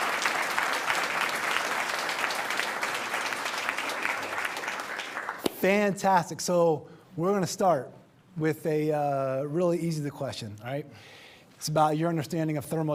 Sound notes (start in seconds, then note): 5.6 applause